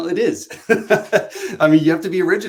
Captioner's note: laughs